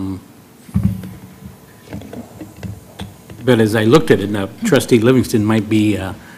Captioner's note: laugh